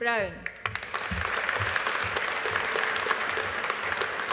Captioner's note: audience applauding